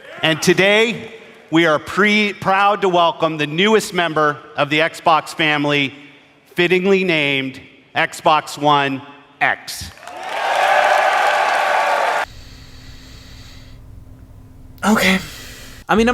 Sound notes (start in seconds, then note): 9.9 crowd cheering